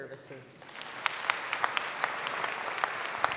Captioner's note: applause